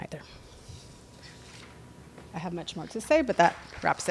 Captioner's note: applause